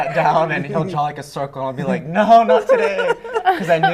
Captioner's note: laughter